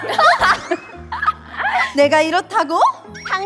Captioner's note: crack up